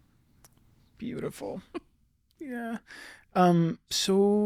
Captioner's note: chuckles